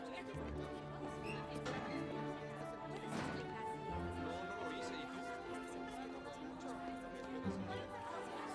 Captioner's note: chattering